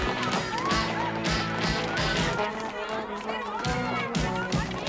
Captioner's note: Возбужденная болтовня